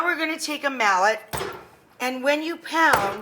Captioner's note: mallet thumping; mallet thumps